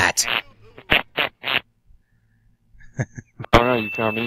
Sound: muffled chuckle

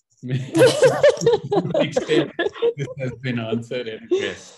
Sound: all laugh

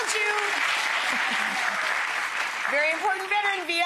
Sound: audience clapping and cheering

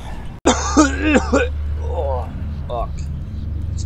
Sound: cough

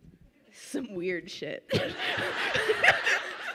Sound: laughs

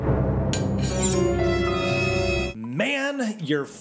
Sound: ominous music; knives scratching

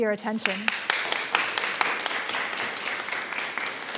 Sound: applause

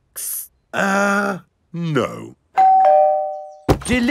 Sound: doorbell rings

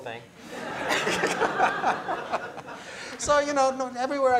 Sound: laughter

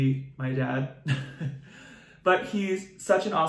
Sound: chuckles

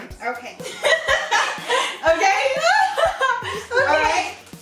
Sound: laughing

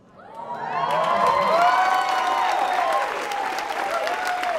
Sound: audience applauding

